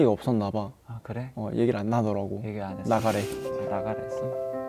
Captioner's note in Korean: 글썽